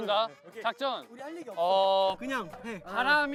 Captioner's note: whispering